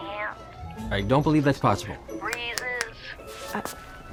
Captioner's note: snaps fingers